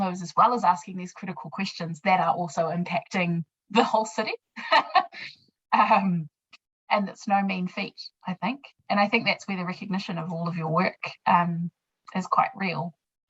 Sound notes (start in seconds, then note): 4.6 laughs